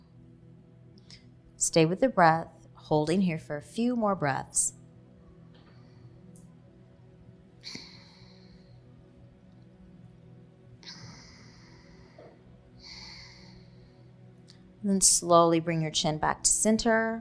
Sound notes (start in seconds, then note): 4.6 exhaling; 4.6 inhaling